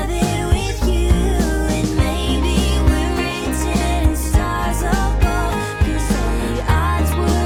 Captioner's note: laughs